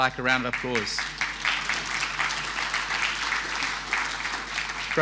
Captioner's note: audience applauding